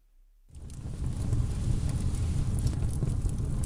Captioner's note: fire sound effect